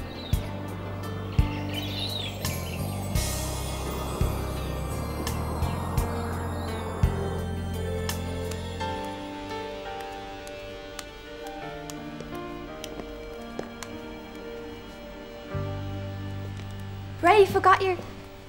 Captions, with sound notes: [Birds tweet] [Footsteps] Bray! You forgot your-